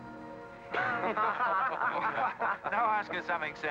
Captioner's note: men laugh